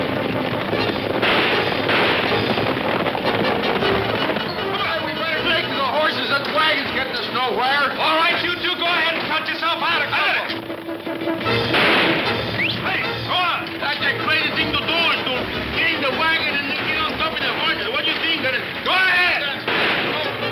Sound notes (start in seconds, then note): 10.9 guns firing; 10.9 suspenseful orchestral music; 12.0 whistles; 19.6 gun fires